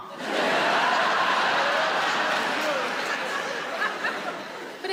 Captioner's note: audience laughs